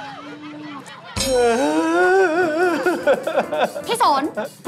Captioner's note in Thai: ร้องไห้